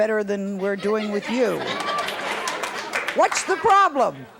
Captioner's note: audience laughs